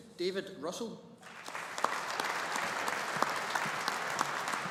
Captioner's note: audience applauding